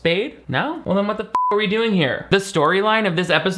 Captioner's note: beep